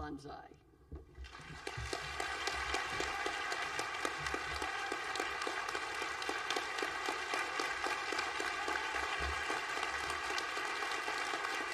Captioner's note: applause